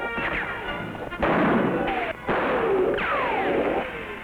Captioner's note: guns firing